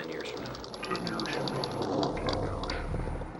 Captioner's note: audio distorts